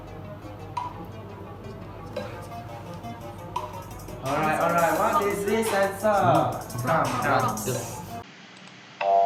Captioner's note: students Discussing…